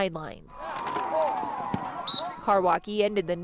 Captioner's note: whistle blows